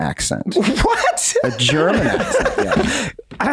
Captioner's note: laughs